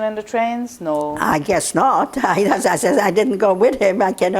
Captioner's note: laughing